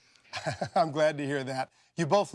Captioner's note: laughs